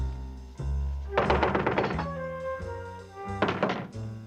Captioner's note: knocking